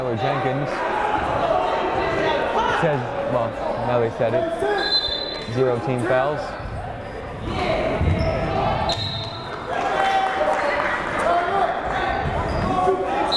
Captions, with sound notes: Second foul on Tyler Jenkins, that's his, well now they reset it, zero team fouls. (yelling) (whistle blowing) (yelling)